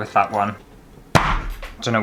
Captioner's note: chop!